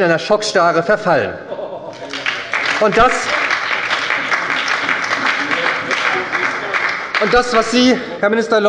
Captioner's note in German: Beifall bei der SPD - Lachen bei Abgeordneten der CDU